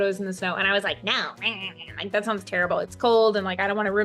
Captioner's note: grumbles